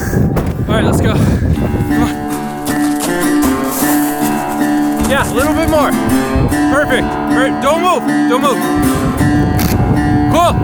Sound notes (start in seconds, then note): 0.3 door thuds; 1.4 footsteps scrunching; 3.8 bush rustling; 9.7 camera clicks